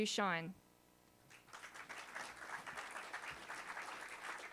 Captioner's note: applause